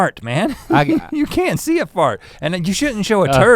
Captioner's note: chuckles